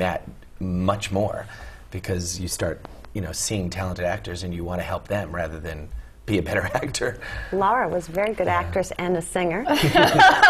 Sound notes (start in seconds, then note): 6.4 laugh; 9.7 laugh